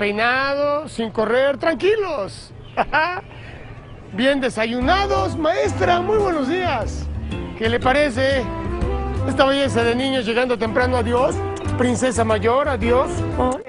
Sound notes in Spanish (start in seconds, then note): 2.6 Ríe